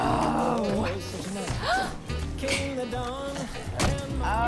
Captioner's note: gasps